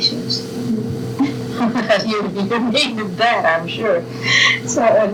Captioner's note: laughter